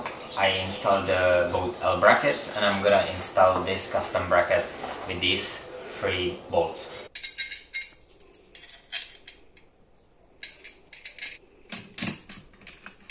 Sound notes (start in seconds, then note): 0.0 construction sounds; 6.6 construction sounds